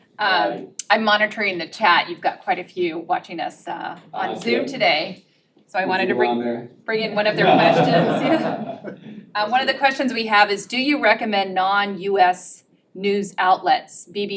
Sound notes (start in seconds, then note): 6.9 laugh